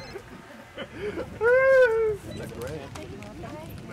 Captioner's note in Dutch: lacht